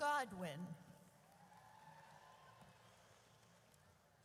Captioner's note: audience cheers